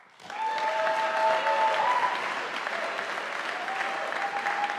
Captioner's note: audience applauding